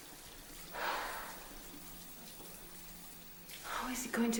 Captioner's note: sighing